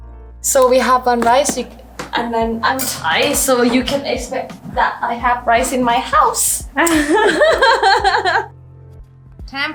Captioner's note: laughing